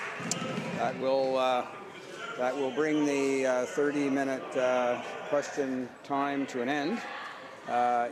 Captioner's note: applause